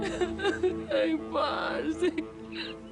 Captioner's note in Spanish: Sollozos